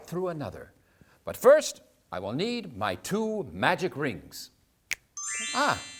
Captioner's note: finger snap